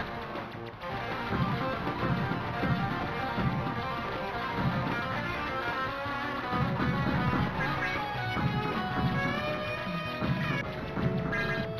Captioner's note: game sounds